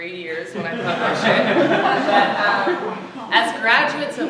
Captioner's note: laughter